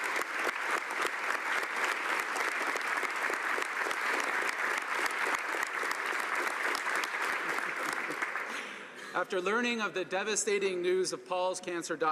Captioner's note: applause